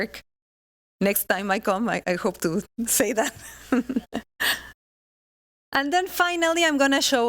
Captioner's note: laughing